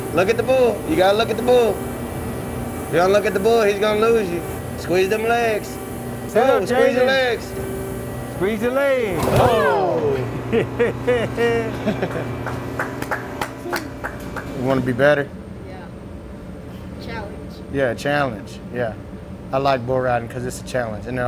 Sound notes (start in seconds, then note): 6.4 man cheering; 9.5 body thuds; 10.0 man chuckles; 12.4 person claps